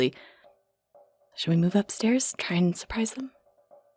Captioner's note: whispering